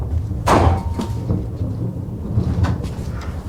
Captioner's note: hand slams